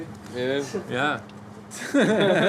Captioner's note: laughs